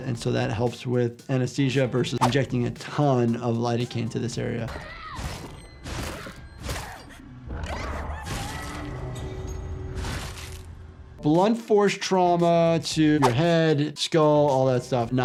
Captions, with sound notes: And so, that helps with anesthesia, versus injecting a ton of lidocaine to this area. (Hinako screaming) (bones crunching) (blood splattering) Blunt force trauma to your head, skull, all that stuff,